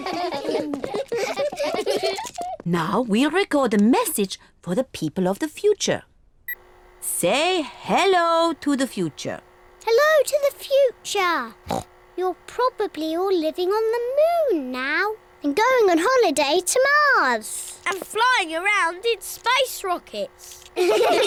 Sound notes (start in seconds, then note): 0.0 all laugh; 11.6 oinks